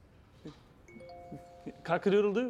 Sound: phone pings

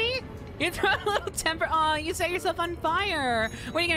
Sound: laughing

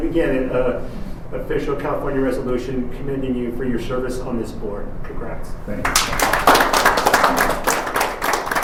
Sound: clapping

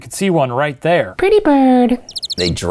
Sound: chirping

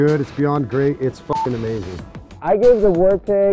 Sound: beep

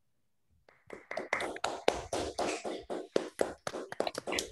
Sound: applause

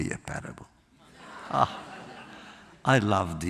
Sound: laughter

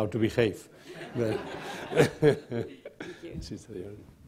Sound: laughter

